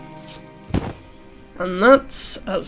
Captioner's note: body hitting ground